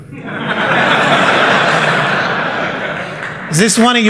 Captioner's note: laughter